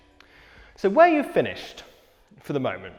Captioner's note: none